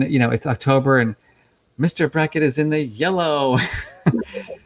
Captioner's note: cheerfully; chuckles